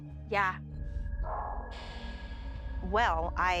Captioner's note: hauntng sounds